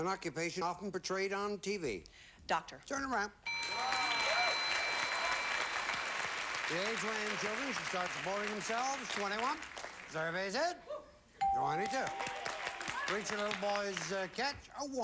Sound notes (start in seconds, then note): 3.5 audience applauding; 11.8 audience applauding